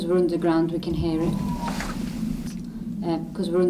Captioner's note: faint crying